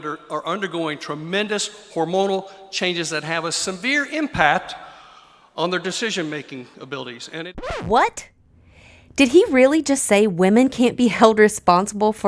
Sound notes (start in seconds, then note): 7.6 disc scratching